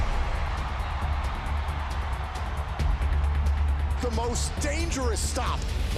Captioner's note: crowd cheering